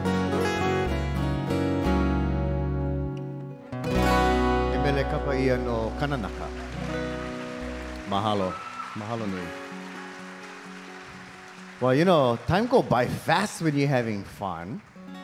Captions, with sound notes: [speaking in Hawaiian] [audience applauding] Well, you know, time go by fast when you're having fun.